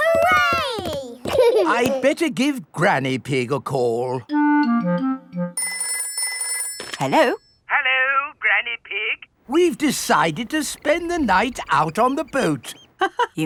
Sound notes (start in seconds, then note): 5.6 telephone ringing